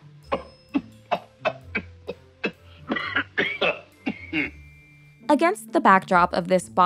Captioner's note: coughing